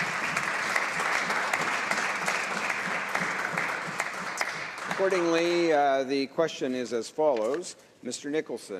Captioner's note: applause